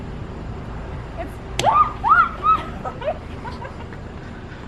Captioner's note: screams